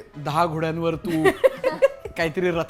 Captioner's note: chuckles